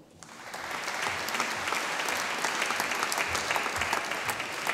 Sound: audience applauding

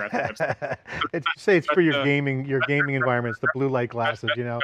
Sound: laughs

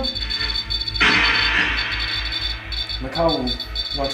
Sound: radio noise hissing continues

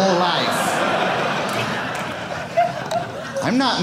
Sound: audience laughing

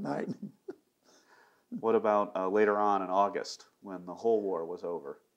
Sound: laughs

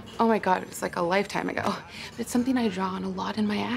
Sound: none

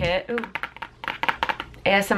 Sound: fingers tapping

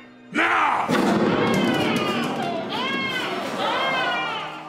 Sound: character screaming

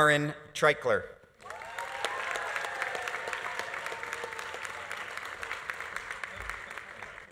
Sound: audience applauding; audience cheering

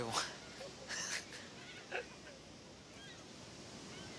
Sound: chuckles

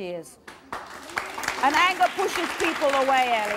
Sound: audience clapping

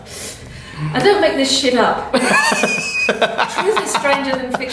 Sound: laughs

